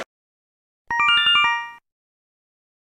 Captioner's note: Yume Nikki Instructions sound effect